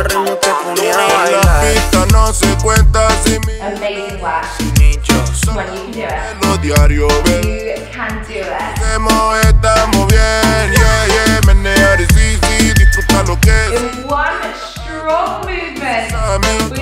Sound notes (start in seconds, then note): 10.5 timer beeping